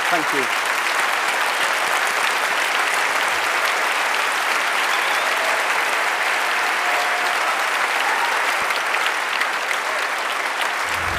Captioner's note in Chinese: 掌聲